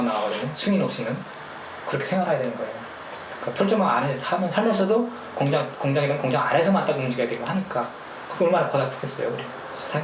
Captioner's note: speaking in foreign language